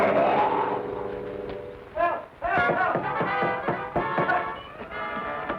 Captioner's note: knocking